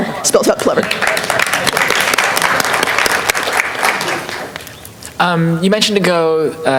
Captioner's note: applause